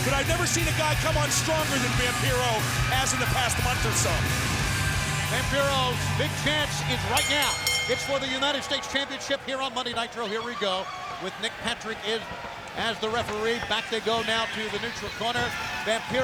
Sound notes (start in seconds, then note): 4.7 crowd cheering; 7.0 bell dinging